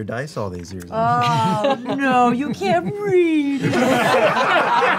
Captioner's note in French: moqueur; rires